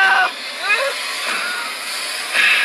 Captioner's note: scream